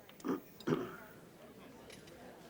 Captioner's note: man clears throat